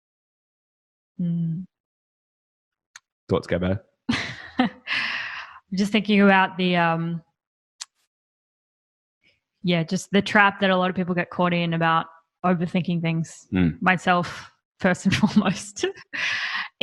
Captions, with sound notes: - Mm. - Thoughts, Gabi? - (chuckles) Just thinking about the, yeah, just the trap that a lot of people get caught in about overthinking things. Myself, (laughing) first and foremost.